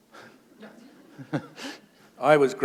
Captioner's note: laughter